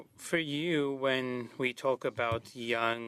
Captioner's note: speaking French